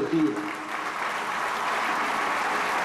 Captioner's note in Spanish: aplausos